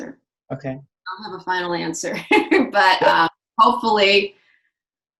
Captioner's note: laughs